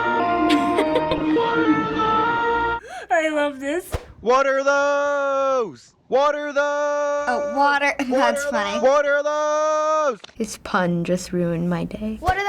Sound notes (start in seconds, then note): 0.3 giggles